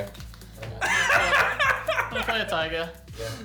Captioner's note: laughing